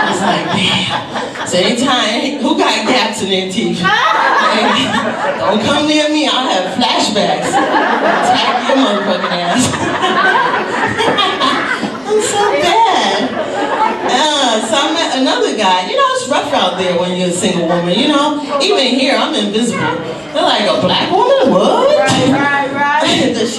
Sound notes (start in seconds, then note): 11.5 laughs